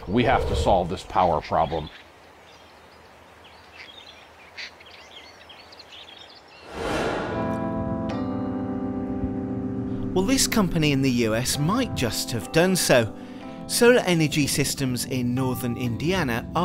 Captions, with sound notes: We have to solve this power problem. (birds chirping) (crows cawing) (air whooshing) (soft orchestral music) Well, this company in the US might just have done so. Solar Energy Systems in northern Indiana